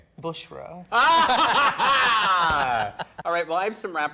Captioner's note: people laughing